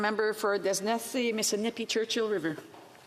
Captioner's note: speaking French